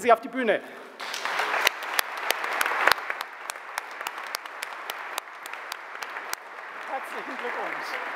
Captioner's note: general applause